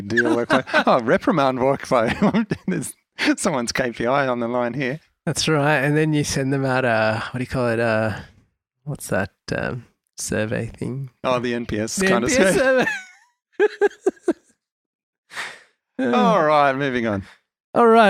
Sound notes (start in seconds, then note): 2.6 laughs; 13.6 laughs